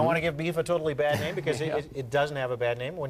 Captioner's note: chuckles